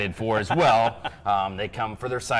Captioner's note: laughs